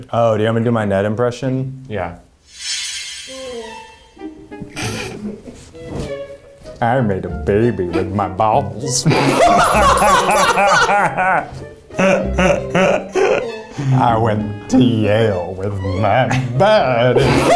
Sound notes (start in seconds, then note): 4.6 sniggering; 9.3 laughing; 9.5 bell ringing; 12.0 guffawing